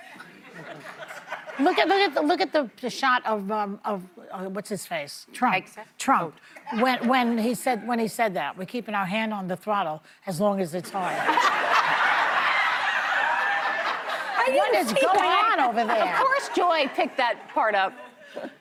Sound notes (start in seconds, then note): 11.0 laughter